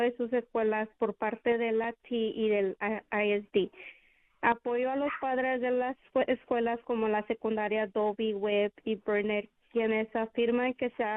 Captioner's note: speaking spanish